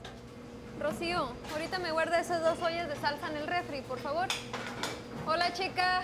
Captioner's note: speaking foreign language